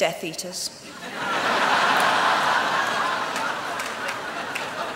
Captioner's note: laughter